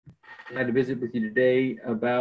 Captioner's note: table slamming